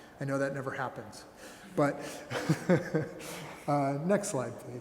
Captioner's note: laughing